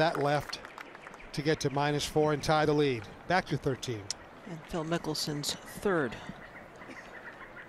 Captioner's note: applause